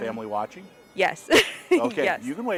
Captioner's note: laughing